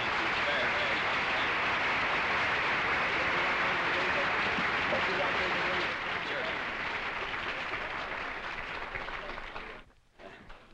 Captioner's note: applause